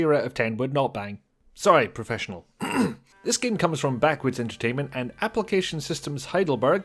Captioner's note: ahem